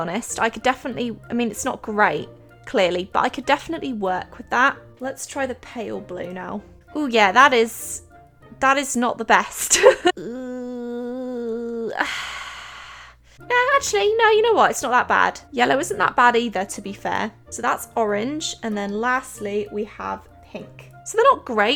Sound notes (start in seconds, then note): 9.6 laughs; 9.9 sighs